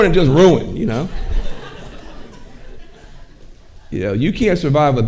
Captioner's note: audience laughing